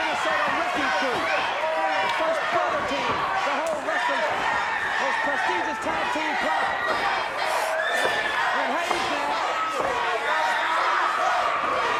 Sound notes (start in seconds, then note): 7.4 audience chanting